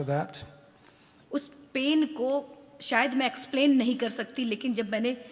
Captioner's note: speaks foreign language